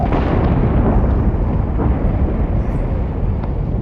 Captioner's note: rumbling